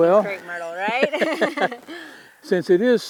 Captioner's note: both laughing